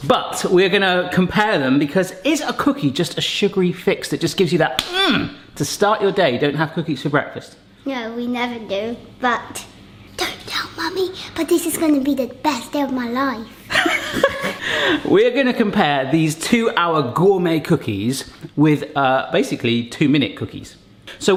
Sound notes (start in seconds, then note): 5.2 grunts; 13.7 laughs